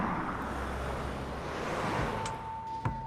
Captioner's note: traffic noises